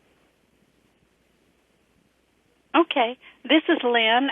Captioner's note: pause